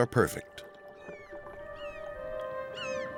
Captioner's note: gulls calling